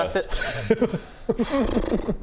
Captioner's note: brrr